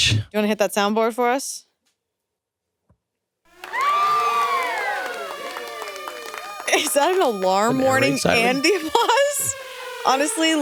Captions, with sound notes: Thank you, Blush. - You wanna hit that soundboard for us? (audience cheer and applaud) (alarm wailing) Is that an alarm warning and the applause?